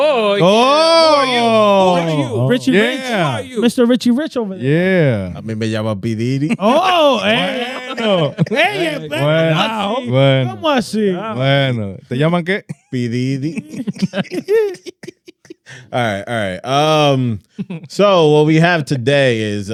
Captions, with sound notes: Oh, who are you? Who are you? Yeah. Mr. Richie Rich over there. Yeah. (Speaking In Foreign Language) All right, all right. So what we have today is,